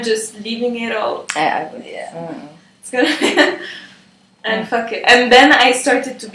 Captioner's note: laught